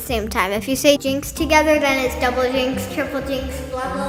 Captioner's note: echoing